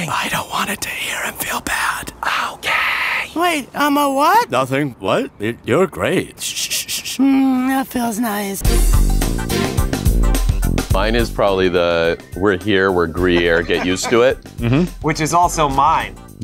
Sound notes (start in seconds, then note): 0.0 whispering; 3.2 voicing burger; 7.4 voicing burger